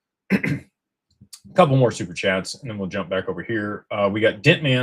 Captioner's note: clears throat